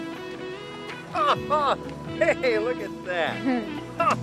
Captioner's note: laughs